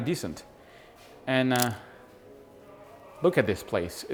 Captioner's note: camera shutter clicks